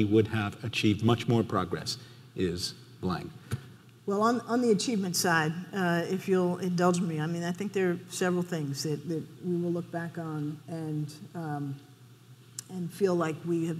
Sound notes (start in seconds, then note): none